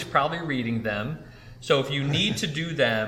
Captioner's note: laughs